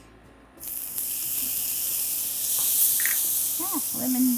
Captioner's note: garlic sizzling